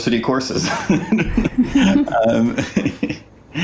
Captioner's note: laughs